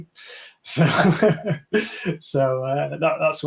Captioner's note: chuckling